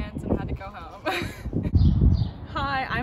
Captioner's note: laughing